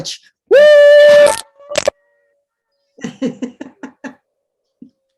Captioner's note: all cheering and laughing